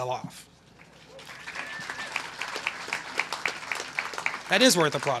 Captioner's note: applause